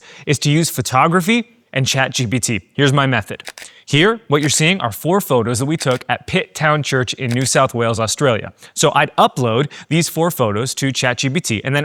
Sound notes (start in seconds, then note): 3.3 camera clicking; 5.7 camera clicking; 5.8 keyboard clicking; 7.2 camera clicking; 7.3 keyboard clicking